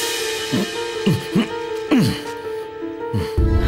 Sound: grunts

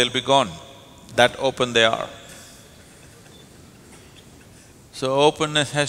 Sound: laughter

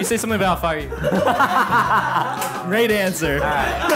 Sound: laughs

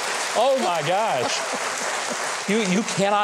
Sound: audience applauding

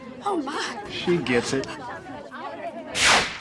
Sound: crowd chattering

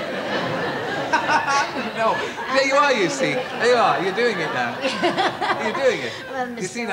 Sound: laughs

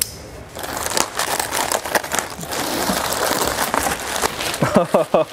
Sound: plastic crinkling

